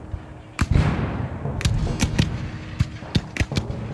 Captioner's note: gun fires